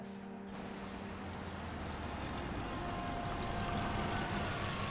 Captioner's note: engine rumbling